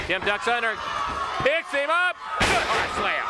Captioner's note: footsteps plodding; body thudding